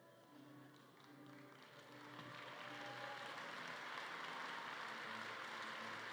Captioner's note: audience cheering and clapping